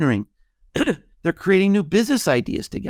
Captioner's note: clearing his throat